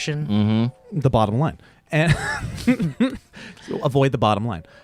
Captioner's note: laughs